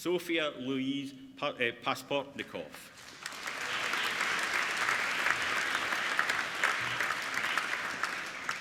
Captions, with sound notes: Sofia Louise Pasportnikov (APPLAUDING)